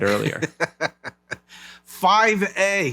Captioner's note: laughing